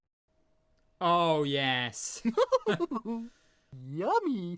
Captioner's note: mr tickle chuckling